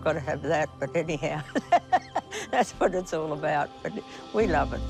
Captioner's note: laughs